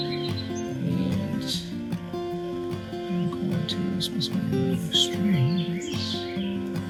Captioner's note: murmuring; soft upbeat music